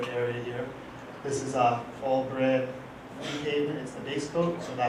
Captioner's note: audience member coughs